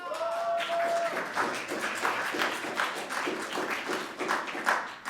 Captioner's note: audience applauding and cheering